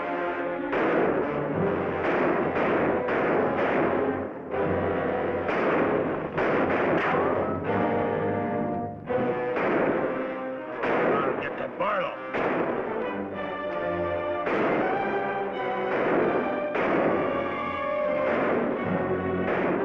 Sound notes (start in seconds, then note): 16.3 gunshots bang